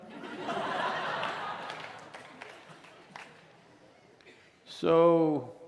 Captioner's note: laughter/Applause